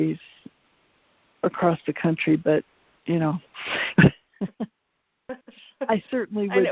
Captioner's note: laughs